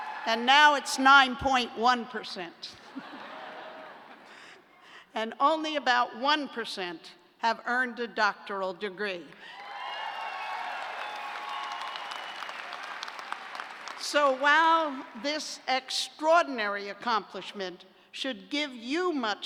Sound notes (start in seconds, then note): 2.8 laughter; 9.4 cheers and applause